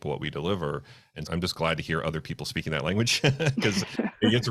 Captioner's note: laughing